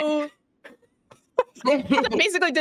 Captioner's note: Deborah laughs